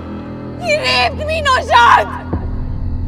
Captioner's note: Screaming